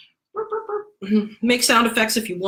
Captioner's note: chuckles